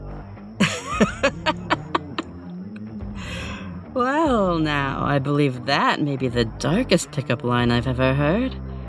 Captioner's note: laugh